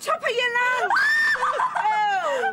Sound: Sonia screams

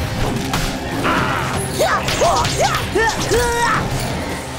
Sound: grunting

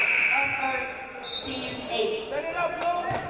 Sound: game buzzer buzzes

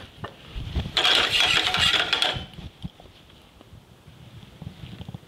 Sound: pan scrapes

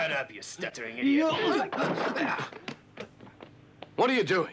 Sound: men grunting

